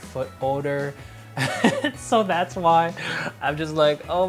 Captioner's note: laughing